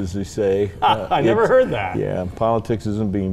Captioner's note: laughs